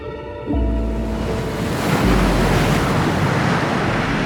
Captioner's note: wave crashing